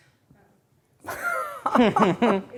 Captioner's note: laughter